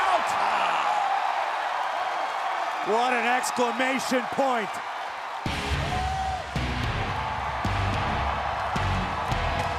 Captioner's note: applause